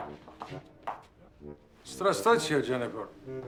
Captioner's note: speaking in a foreign language